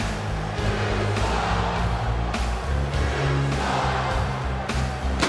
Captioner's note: crowd cheering